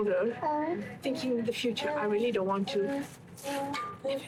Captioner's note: whisper